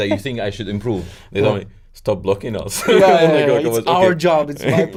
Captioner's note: laughs